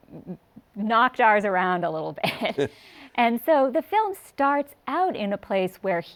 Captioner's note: chuckles